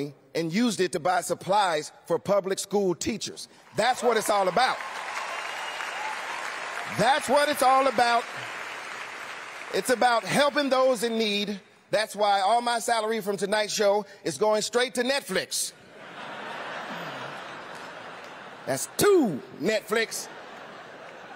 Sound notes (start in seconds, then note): 3.7 cheering; 5.8 applause; 15.8 laughter